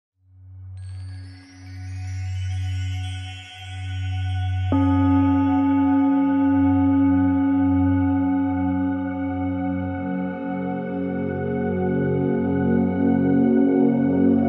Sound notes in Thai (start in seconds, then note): 4.7 เสียงระฆัง